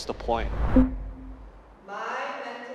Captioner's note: whooshes